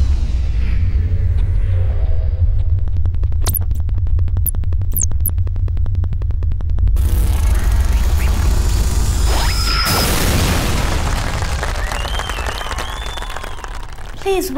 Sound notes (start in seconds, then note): 3.3 static; 10.3 explodes; 12.1 cheers